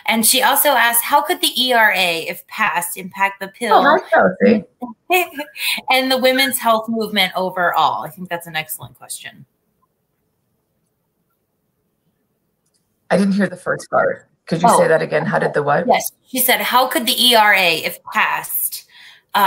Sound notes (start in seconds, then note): 5.0 laughter